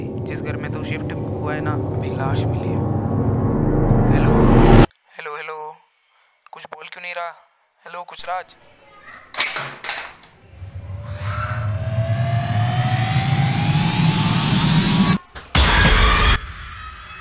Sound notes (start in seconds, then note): 9.3 phone drops from hand